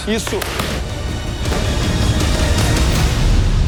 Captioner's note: strikes violently thwacking pads